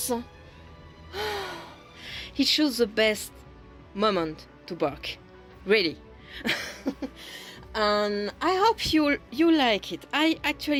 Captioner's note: sigh